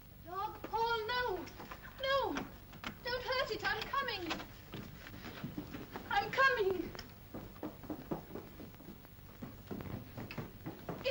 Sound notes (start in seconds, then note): 2.1 door unlocks; 3.6 door opens; 7.3 footsteps down stairs